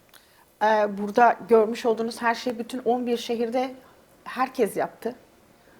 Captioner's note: speaks in Turkish